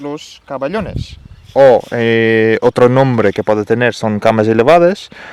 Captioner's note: in spanish